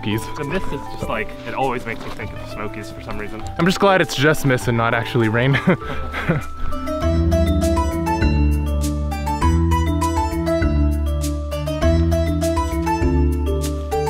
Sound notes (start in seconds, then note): 5.5 both laugh